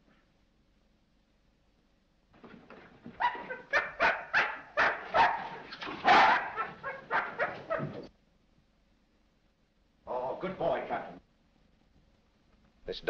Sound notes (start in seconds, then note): 3.1 barking